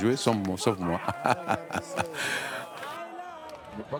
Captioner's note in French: rires